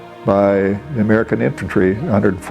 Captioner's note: non-english